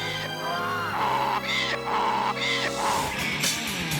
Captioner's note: romantic music; donkey braying; upbeat music